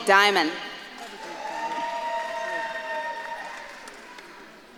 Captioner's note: audience claps and cheers